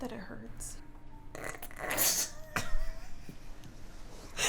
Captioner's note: laughter